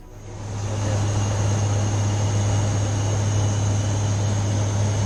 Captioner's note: aeroplane engine